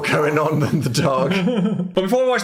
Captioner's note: Phil laughs